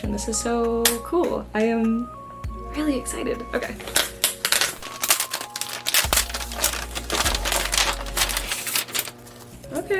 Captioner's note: sped up crinkling noises